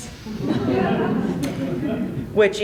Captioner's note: laughter